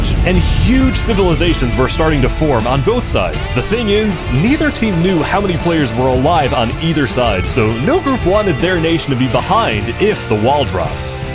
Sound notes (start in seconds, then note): none